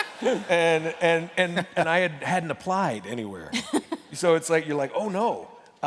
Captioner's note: laughter